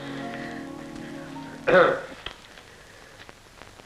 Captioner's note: ahem